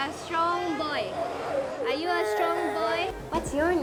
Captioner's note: boy continues to cry